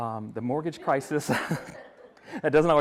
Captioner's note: everyone laughing